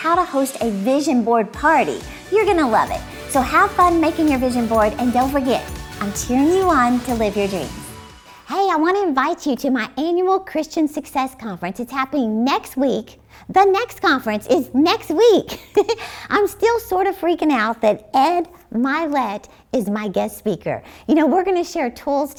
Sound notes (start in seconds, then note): 15.4 giggling